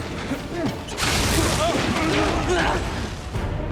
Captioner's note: both grunt